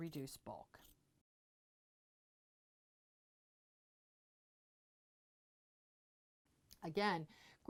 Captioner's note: no Sound Present